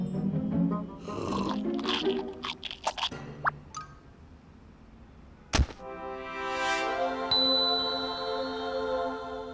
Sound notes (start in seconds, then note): 1.0 sucking; 1.1 crunching; 6.5 dings